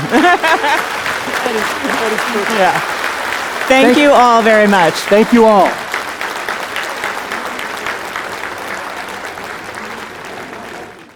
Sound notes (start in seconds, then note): 0.0 laughing; 1.8 audience applauding; 5.8 audience applauding